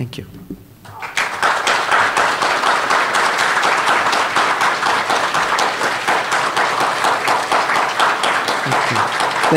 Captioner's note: applause